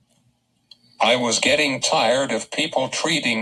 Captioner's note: voiceover